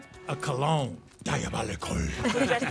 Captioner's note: dramatically